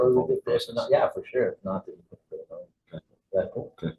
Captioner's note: speaking faintly